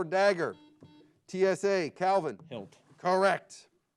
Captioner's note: buzzer beeps